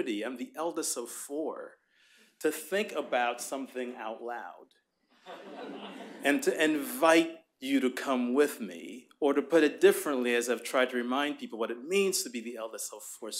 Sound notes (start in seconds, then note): 5.2 laughter